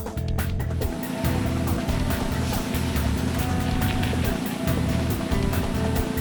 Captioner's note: cement machine pouring